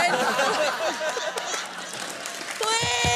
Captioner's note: laughter